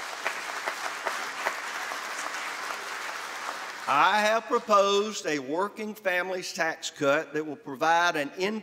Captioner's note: applause